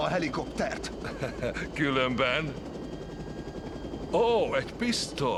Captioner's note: chuckles